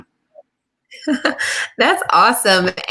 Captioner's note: laughs